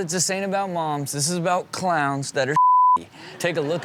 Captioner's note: beep